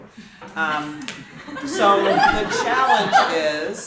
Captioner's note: audience laughing